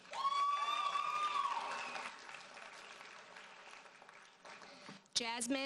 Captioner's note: audience cheers and applauds